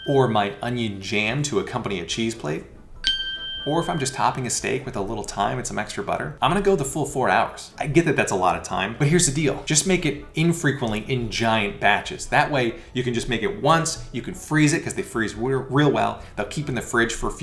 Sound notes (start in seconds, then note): 3.0 ding